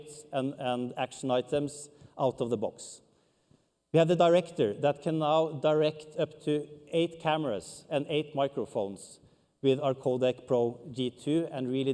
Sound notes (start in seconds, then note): none